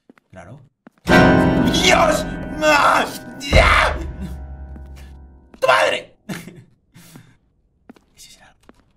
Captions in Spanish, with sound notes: Claro! Dios! (Grita) Ya! Tu madre! Ese será...